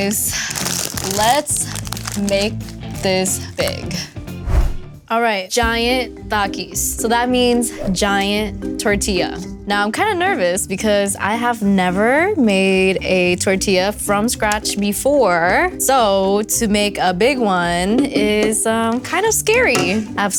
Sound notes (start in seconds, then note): 4.4 whooshing